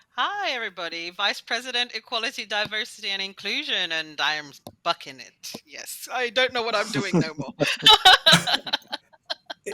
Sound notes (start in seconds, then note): 6.9 laughter